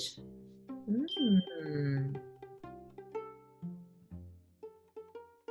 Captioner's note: stars tinkling